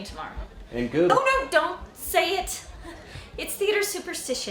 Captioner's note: chuckles